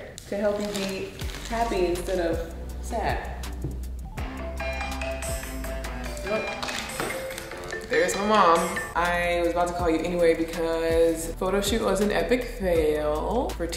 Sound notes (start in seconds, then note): 4.3 phone ringing